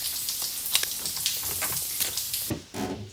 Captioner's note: padlock clicking